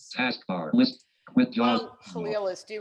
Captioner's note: automated Voice